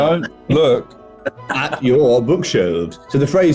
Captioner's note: chuckling